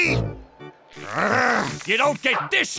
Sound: groaning

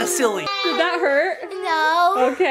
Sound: children exclaiming

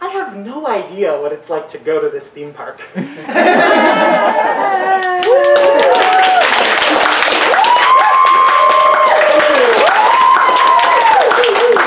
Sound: audience laughter then cheers and applause

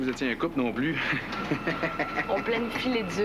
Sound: Rire

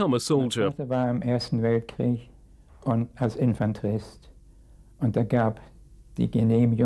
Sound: speaking in a foreign language

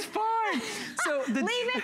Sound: laughter

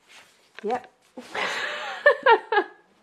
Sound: laughs

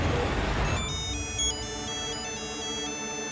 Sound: cell phone ringing

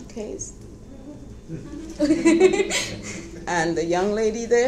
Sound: laughing

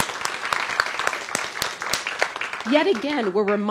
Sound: applause

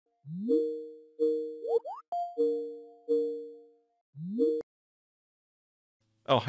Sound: Microsoft Teams default ringtone

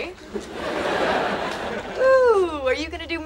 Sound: audience laughing

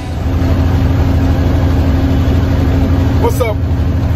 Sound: truck engine rumbles

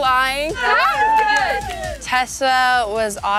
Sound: all cheering

